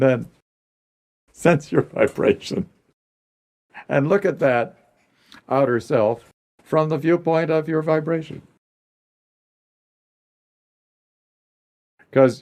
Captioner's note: laughs